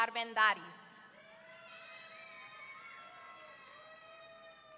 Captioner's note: audience cheering